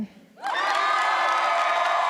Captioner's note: applause